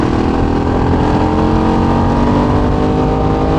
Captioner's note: engine revving